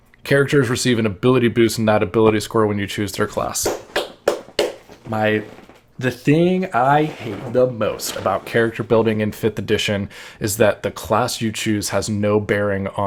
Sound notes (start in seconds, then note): 3.6 claps